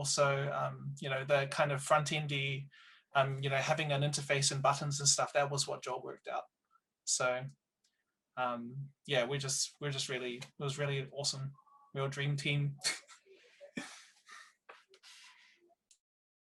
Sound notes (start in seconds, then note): 13.7 laughs